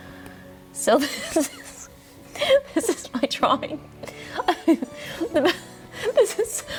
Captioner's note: laughs